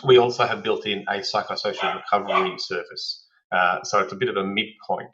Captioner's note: dog barks